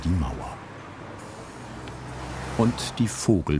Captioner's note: traffic noise